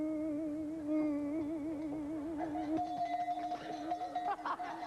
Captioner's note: bell rings